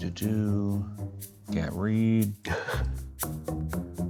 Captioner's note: laughs